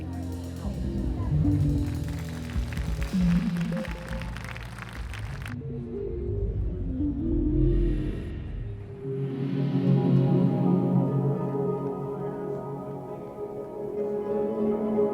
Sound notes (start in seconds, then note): 1.7 audience applauds